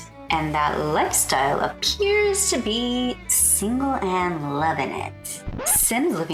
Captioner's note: record scratch